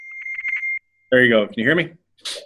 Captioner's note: beeping sound